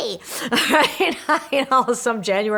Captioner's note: laughing